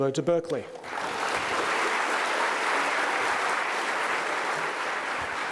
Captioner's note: attendees applauding